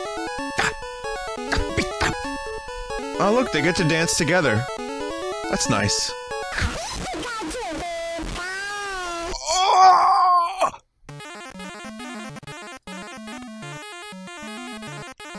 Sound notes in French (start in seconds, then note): 0.5 beatbox; 9.3 cris d'agonie; 10.9 bips corrompus